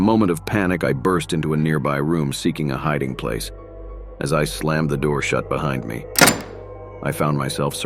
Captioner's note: slamming door